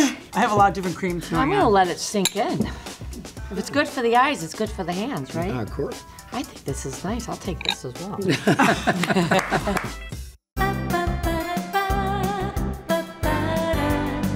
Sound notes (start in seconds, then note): 8.2 all laughing; 10.7 upbeat music continues